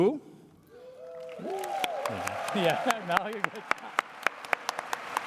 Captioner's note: applause